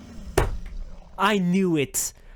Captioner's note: bonk